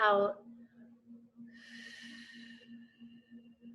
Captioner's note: exhales